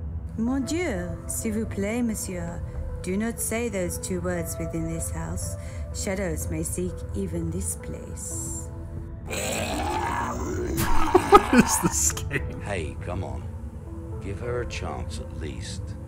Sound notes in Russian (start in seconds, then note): 9.2 демоническое хрипение